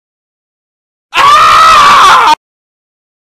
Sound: man screaming in background

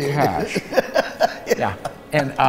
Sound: laughs

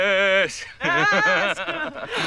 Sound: laughs

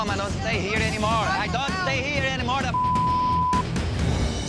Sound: beep

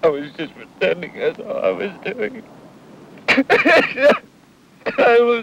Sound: cries

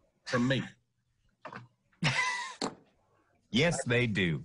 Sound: laughing

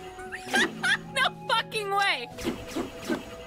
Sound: laughing

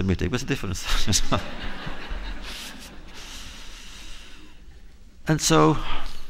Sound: laughter

